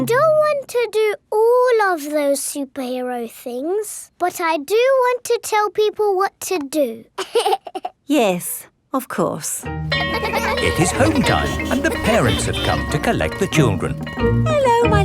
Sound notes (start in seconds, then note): 7.2 giggles; 9.9 school bell rings